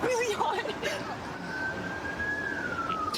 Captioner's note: siren wailing